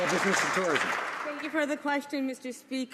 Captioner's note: some Applause